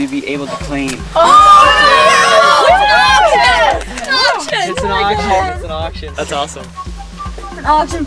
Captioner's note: all cheering